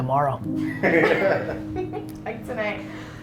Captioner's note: laughs